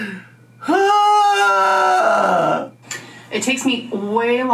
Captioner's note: groans